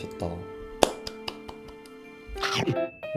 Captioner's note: applause